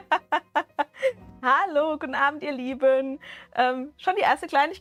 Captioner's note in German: Gelächter